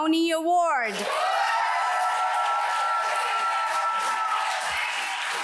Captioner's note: audience applauds